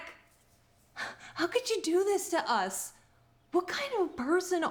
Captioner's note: scoffs